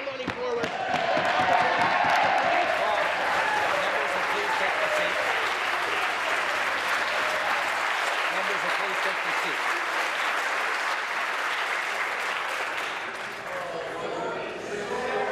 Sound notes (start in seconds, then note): 3.5 applause and cheering; 13.0 applause